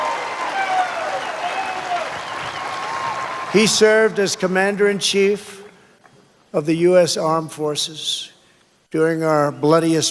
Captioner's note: cheers and applause